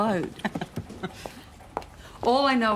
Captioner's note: laughs